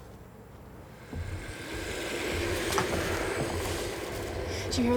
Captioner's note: ethereal growling